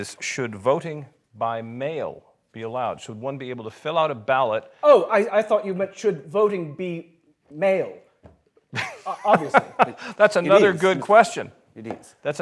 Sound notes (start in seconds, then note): 8.7 laughs